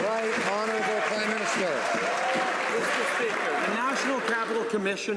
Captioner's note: some Applause